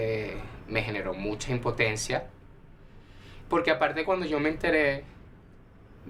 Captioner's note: voice breaks